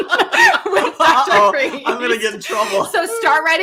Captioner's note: laughing